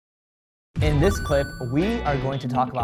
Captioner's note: electronic chime